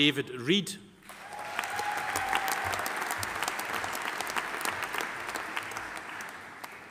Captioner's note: audience applauding; audience cheering